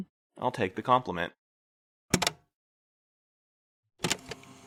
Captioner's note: the tape recorder shuts off, then back on again